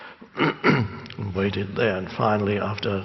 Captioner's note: clearing throat